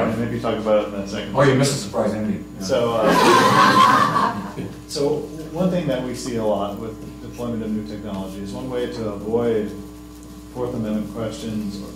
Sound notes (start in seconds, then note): 3.0 laughter